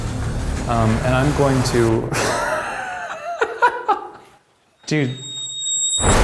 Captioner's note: laughs